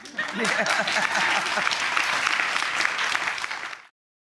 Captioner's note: audience clapping